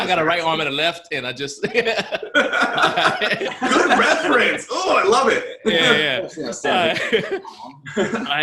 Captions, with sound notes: I've got a right arm and a left, and I just (laughs) - Good reference! I love it.